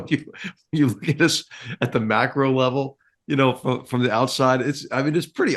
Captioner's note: laugh